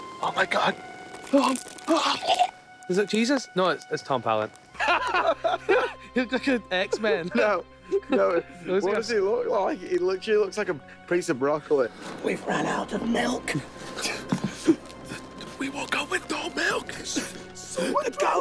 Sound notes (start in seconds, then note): 4.7 laughing